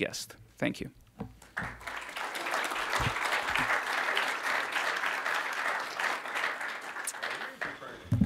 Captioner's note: applause